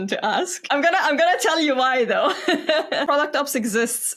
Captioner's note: laughs